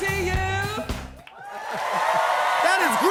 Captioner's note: cheers and applause